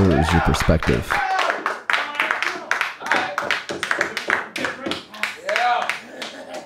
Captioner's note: audience cheering